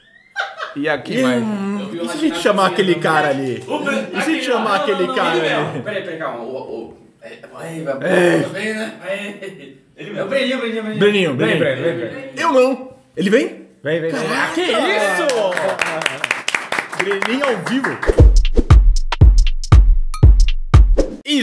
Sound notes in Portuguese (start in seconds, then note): 15.1 palmas